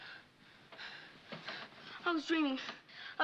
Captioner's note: panting